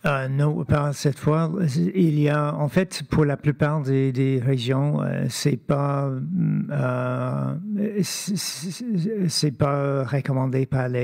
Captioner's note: speaking French